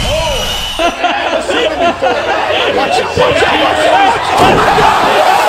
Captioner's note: Pat; laughs; Pat; laughs